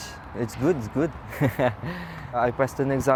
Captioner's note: chuckles